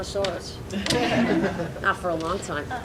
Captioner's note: audience laughing